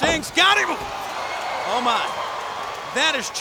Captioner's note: audience groans